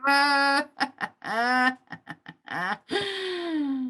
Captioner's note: laughing